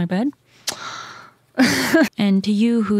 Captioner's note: laughs